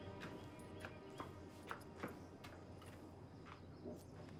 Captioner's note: hooves clopping